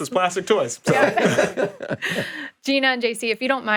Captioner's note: group laughing